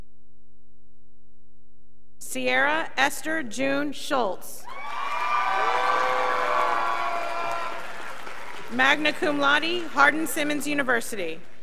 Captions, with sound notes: Cyairra Esther-June Schultz, (graduates applauding) magna cum laude, Hardin-Simmons University.